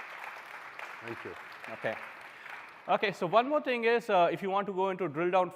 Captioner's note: applause